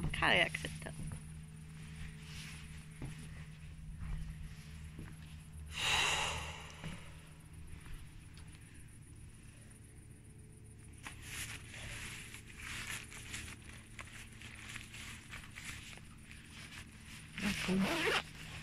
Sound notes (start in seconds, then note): 5.7 sighs; 10.5 boat engine noise in the background